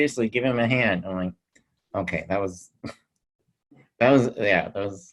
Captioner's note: chuckles